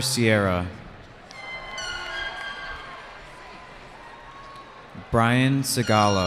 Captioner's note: cheering